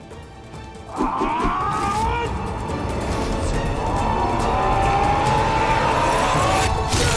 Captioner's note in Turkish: Bağırma sesi